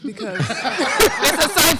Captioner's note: laughter